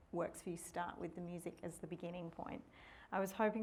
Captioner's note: none